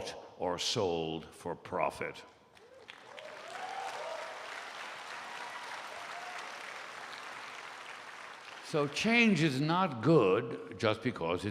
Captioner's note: applause